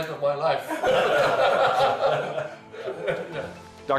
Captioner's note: laughter